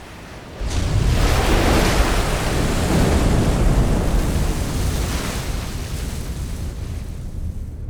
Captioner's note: waves crashing